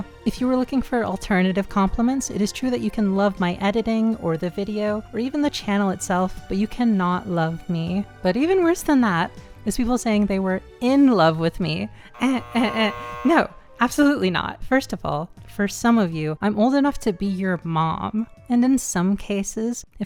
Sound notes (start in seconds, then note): 12.1 3x incorrect buzzer sound combo